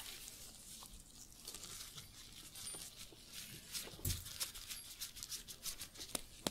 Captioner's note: glove sounds, jingling; book creaking, shuffling